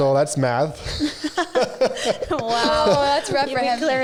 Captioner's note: all laughing